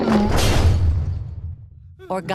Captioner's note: thunk; crash